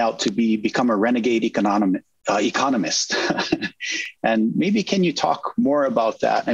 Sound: laughs

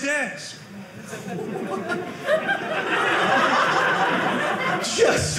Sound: audience laughing

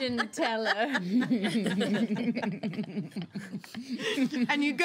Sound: girls laughing

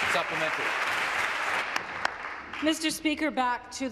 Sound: applause; voice trailing

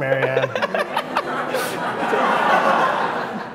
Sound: laughs

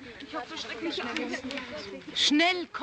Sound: women talking

